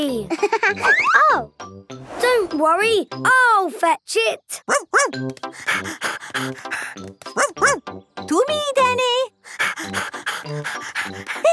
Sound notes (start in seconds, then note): 0.3 giggling; 5.4 panting